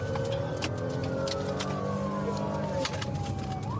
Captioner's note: siren blaring